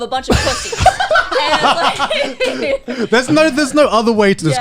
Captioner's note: laughing